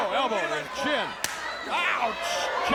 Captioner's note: hand thuds